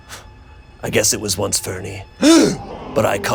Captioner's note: audience gasping